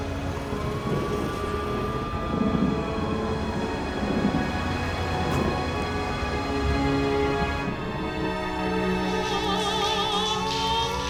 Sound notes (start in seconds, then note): none